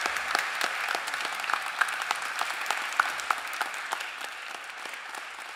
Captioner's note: applause